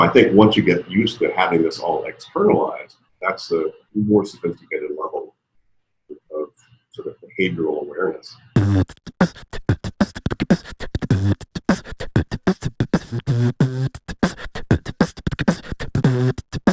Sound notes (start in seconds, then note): 8.5 beatboxing